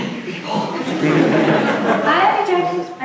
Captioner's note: audience laughs